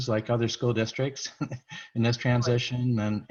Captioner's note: laughs